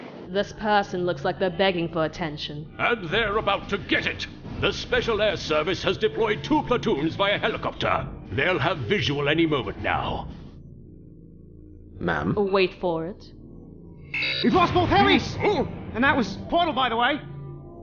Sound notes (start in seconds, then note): none